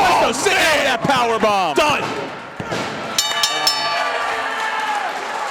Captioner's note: bell rings